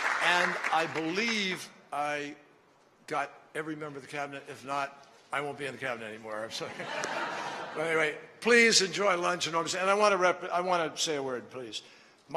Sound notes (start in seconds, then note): 0.0 applause; 6.6 laughter